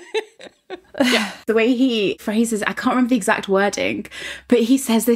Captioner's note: laughing